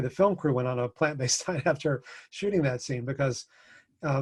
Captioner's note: laughs